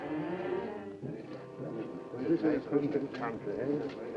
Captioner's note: men chattering